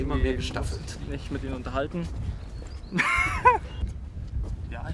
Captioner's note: laughs